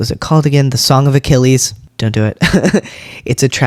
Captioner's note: laugh